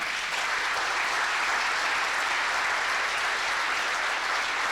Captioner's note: applause